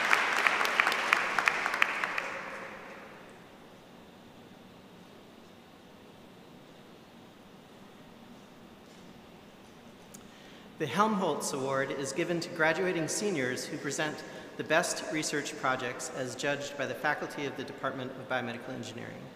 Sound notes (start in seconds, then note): 2.9 applause